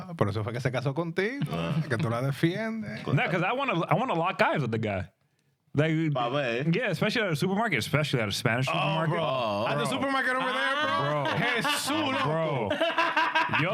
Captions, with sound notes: No, because I want to lock eyes with the guy. (Speaking In Spanish) Yeah, especially at a supermarket, especially at a Spanish supermarket. At the supermarket over there? (Speaking In Spanish)